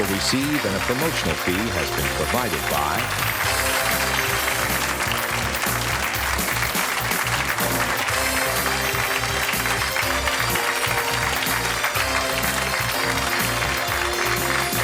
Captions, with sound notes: will receive and a promotional fee has been provided by. (audience applause) (jazzy music)